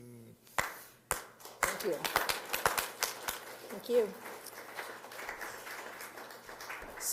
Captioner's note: applause